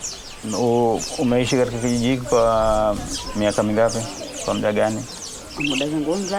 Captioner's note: both speaking in foreign language